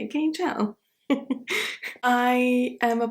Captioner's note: chuckles